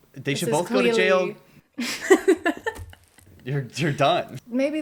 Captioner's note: laughter